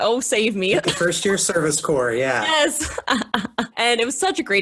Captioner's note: laughs